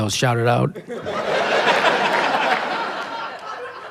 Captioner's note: laughter